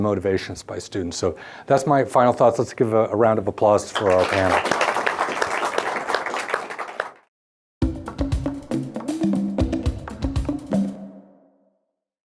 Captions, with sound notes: of motivations by students. That's my final thoughts, let's give a round of applause for our panel. (applauding) (upbeat music)